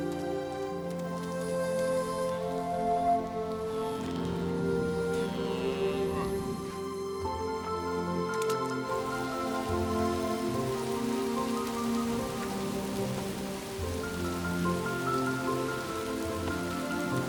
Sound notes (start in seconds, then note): 3.7 animals bleating; 8.8 rain falling